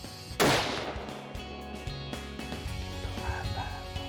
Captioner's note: gun bangs